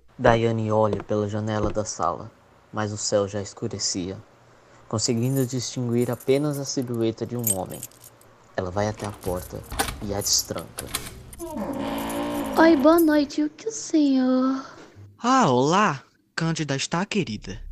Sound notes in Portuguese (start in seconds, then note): 10.7 Porta rangendo; 10.8 Chave abrindo porta